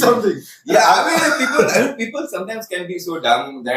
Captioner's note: laughs